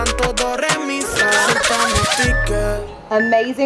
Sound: alarm beeping

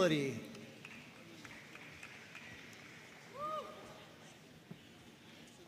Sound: audience cheering and applauding

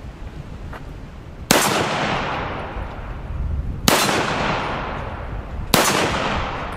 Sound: gun fires

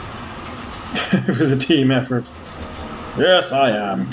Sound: chuckling

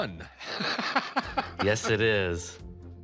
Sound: laughing

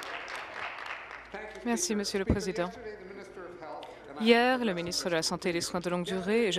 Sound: applause

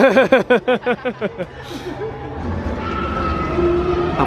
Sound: laughs

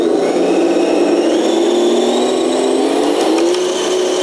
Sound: engine speeding

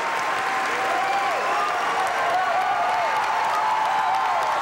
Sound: audience applauding

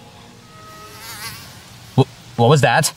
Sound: fly buzzing

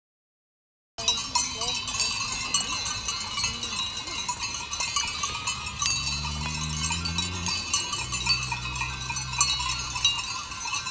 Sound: sound of bells

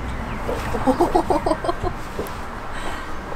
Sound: laughs

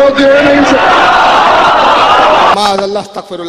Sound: audience cheers and shouts enthusiastically

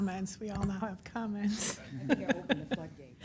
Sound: laughing

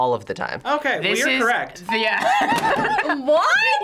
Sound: laughs

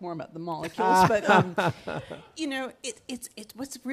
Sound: laughs

